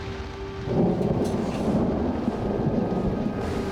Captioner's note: thunder